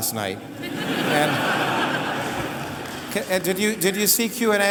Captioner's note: laughter